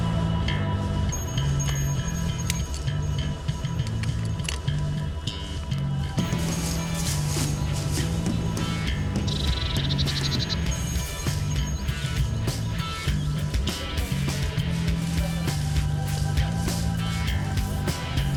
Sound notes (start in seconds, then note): 0.2 soft music; 7.3 rock music; 7.3 shuffling